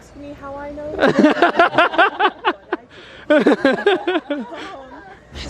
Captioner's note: all laughing